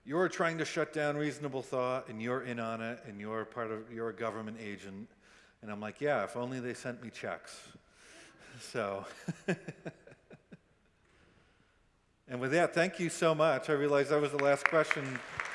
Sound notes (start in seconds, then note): 8.7 chuckles; 9.1 audience members chuckle